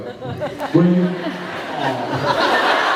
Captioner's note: laughs